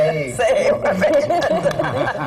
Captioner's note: laughter